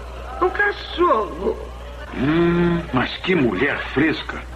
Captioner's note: chuckles